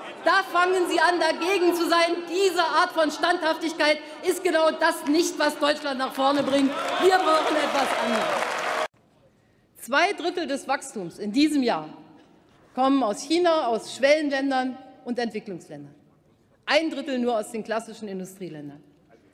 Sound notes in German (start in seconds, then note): 6.0 Lebhafter Beifall bei der CDU/CSU und der FDP